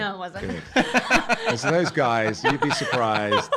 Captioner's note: laughing